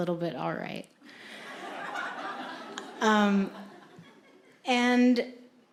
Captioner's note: audience laughing